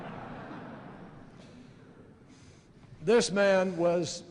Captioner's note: laughter